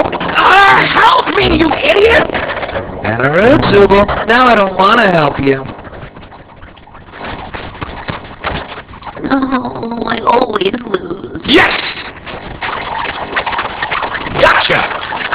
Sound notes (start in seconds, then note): 12.2 gloinks squeaking, boinking